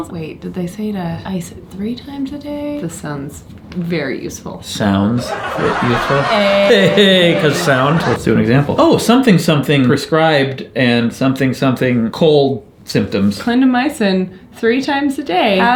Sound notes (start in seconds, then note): 5.1 audience laughter; 5.2 both laugh